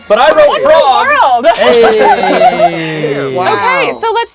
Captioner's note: everyone laughs